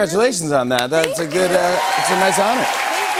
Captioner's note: cheers and applause